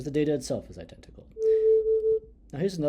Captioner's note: sound humming